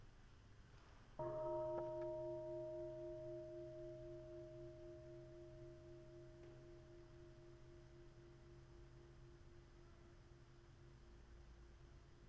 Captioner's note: bell chimes